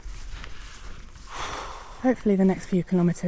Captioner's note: puff